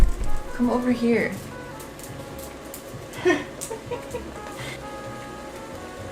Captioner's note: laughs